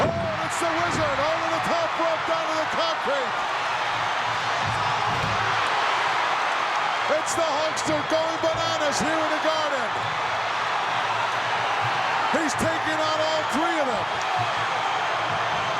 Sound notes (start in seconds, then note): 3.8 audience cheering